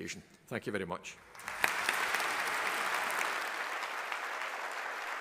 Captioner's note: audience applauding